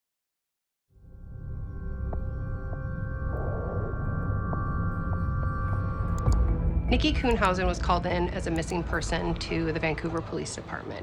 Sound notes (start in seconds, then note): 4.7 ominous music playing; 6.1 mouse clicks